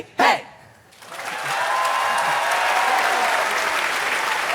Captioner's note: applause